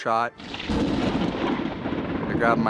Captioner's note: thunder crashing